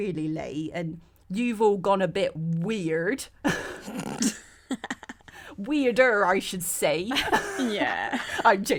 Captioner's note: all laugh